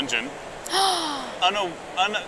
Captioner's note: gasp